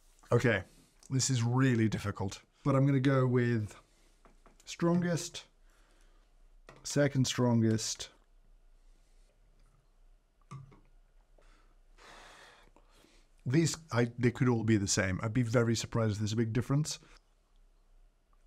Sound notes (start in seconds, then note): 11.4 exhales